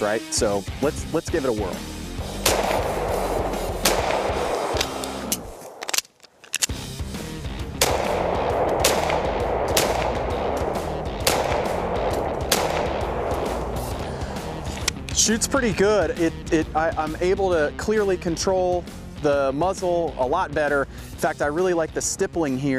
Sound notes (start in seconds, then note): 2.2 gun firing; 4.7 reloading magazine clicks; 7.7 gun firing